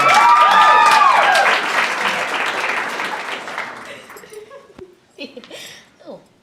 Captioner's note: audience cheers loudly and applauds